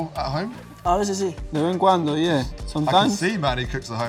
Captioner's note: Spanish